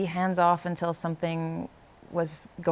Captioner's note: none